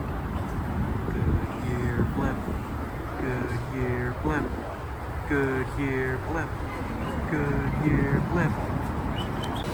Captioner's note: chanting